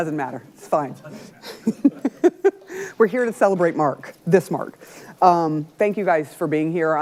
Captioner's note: laughs